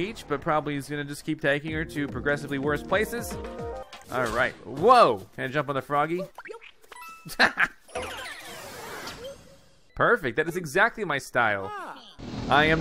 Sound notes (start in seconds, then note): 7.2 laughs